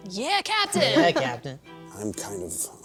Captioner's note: laughter